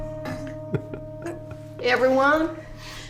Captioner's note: giggling